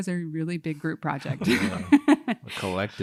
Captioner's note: laughter